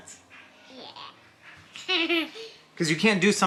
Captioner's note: laughs